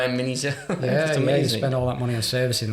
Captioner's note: laughing